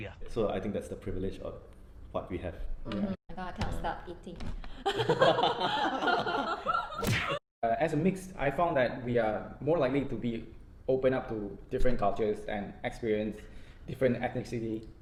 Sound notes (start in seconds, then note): 4.8 hahahah; 6.9 doosshh